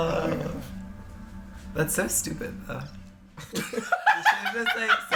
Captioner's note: break out laughter